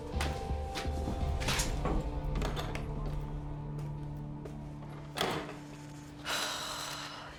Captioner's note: tense music; door opens, closes; becky sighs